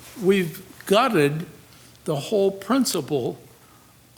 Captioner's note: none